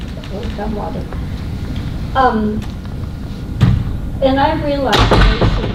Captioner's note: door slams